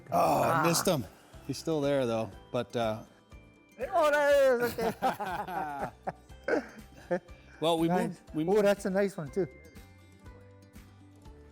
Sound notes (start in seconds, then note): 4.4 laughs